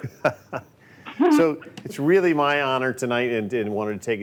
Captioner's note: laughs